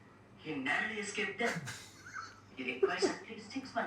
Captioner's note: clears throat